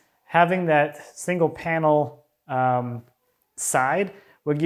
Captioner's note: none